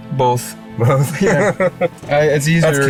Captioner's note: laughs